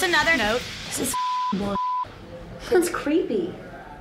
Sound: beep

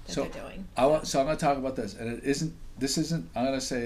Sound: voiceover

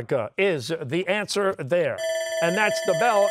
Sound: bell ringing

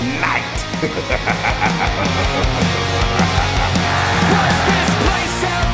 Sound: narrator chuckling

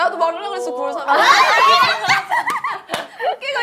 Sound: laughing

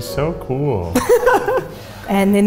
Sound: laughter

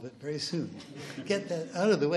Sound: laughs

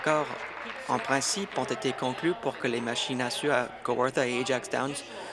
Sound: applause

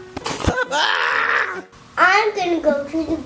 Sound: yells

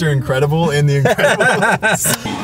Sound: both laugh

